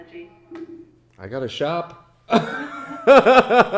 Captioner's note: laughs